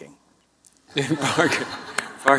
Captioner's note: laughter